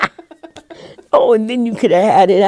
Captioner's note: laughing